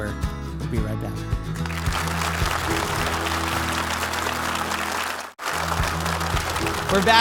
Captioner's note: audience applauding